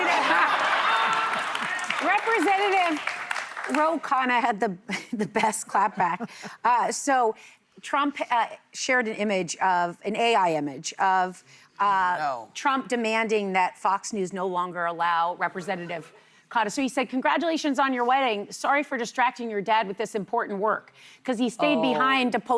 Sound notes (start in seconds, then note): 4.2 laughter